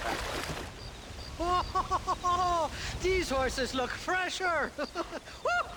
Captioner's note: laugh